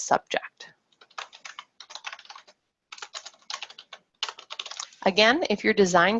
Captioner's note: keyboard keys clacking